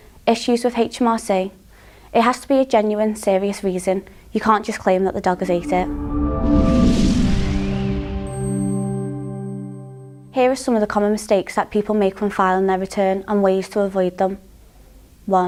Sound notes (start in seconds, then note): 5.3 melodic sting; 6.2 bell dinging